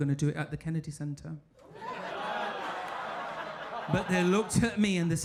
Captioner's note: audience laughing